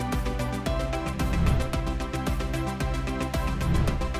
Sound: air whooshing; air whooshing

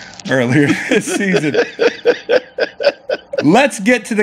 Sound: laughs

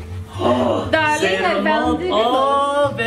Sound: gasps

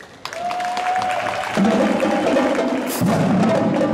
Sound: cheers and Applause

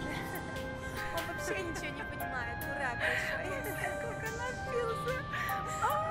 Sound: speaking in foreign language

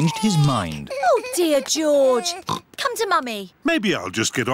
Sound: oinks

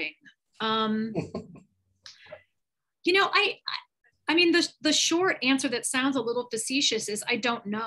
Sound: chuckles

